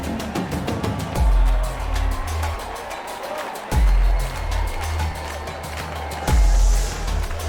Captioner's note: crowd cheering, party noises